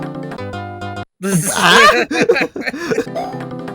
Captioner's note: chuckles